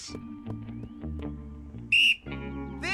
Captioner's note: whistling